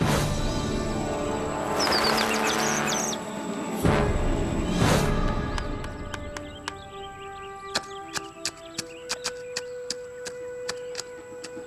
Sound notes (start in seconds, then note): 1.0 birds screeching